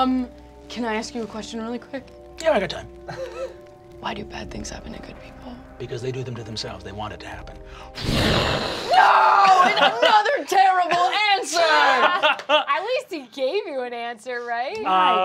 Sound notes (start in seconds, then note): 3.0 chuckling; 7.9 mimics flames rushing